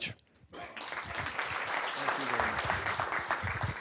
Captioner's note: applause